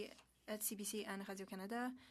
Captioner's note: speaking French